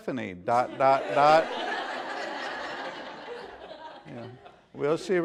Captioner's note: laughter